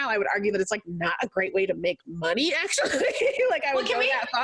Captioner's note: laughs